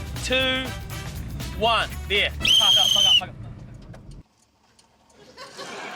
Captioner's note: whistle trills